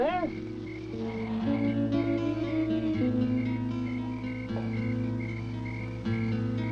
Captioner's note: insects chirping; poignant music